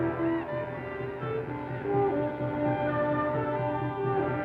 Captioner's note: distant war cry